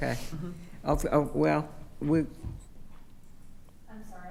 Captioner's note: stammering